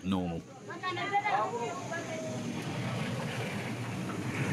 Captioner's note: indistinct chatters